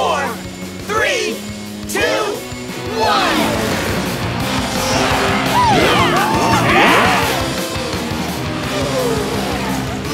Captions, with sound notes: three, two, one! [cheering]